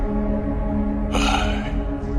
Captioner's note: sigh